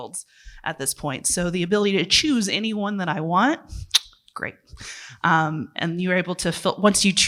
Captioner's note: clicks tongue